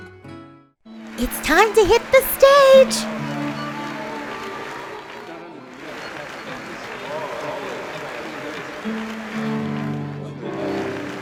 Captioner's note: clapping